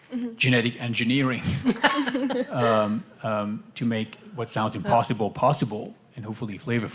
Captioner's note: laughter